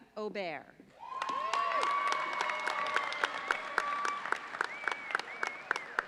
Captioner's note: audience cheers and applauds